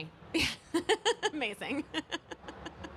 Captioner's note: chuckles